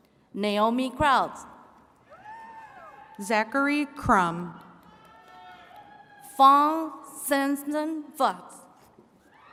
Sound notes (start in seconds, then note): 2.0 attendees cheering; 4.3 attendees cheering and clapping